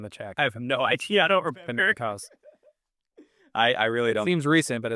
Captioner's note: laughs